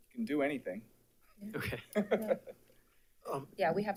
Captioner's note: laughs